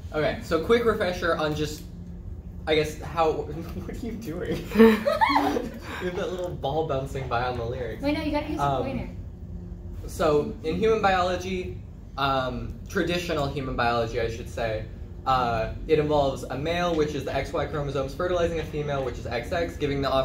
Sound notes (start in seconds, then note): 4.5 collective laughter; 4.6 laughs